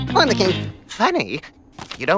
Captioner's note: As Dart #1 talks, we hear a low rumbling sound